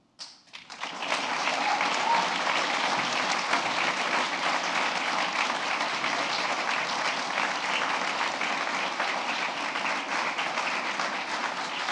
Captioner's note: applause